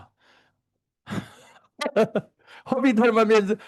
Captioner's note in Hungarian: Laughs